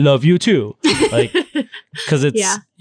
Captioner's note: laughing